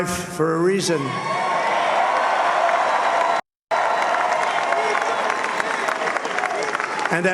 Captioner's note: cheers and applause